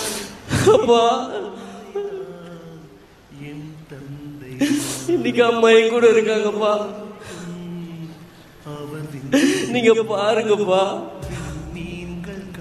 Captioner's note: speech in indian